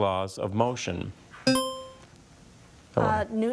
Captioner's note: buzzer chiming